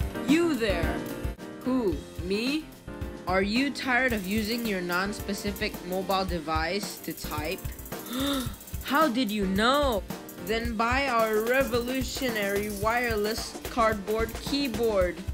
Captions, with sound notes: Y O U THERE! Who? Me? Are you tired of using your non-specific mobile device to type? *le gasp* How did you know? Then BUY OUR REVOLUTIONARY WIRELESS... CARDBOARD KEYBOARD